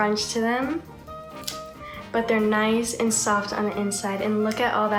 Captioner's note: snap